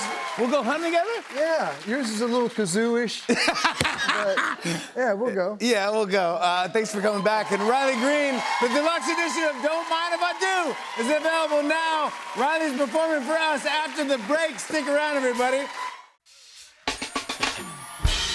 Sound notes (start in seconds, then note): 3.3 laughing; 15.3 cheering, applause